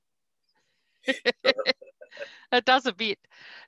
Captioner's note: laughs